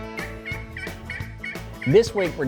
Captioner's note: turkey call